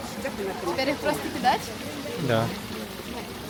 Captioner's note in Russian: звуки сомнений